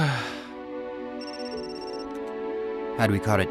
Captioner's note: phone ringing